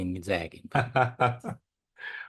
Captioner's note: laugh